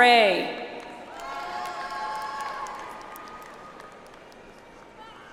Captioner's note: audience applauds